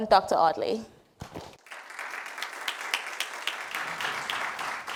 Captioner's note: applause